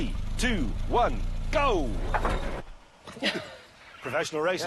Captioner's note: engine stalls; chuckles